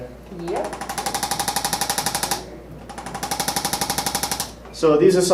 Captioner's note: ArthroStim rattles